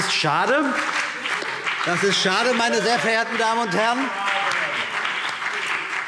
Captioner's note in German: Beifall CDU und BÜNDNIS 90/DIE GRÜNEN - Zurufe